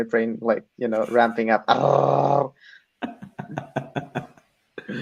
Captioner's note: laughs